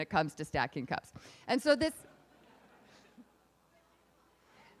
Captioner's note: laughing